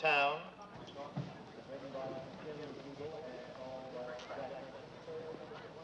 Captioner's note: muffled speaking over loudspeaker